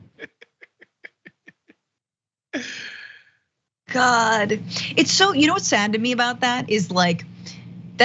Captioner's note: laugh